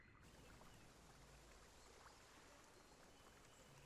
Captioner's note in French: gazouillis d'oiseaux, bouillonnement d'eau